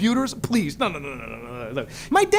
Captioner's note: grunting in disagreement